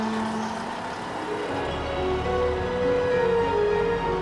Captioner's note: engine chugging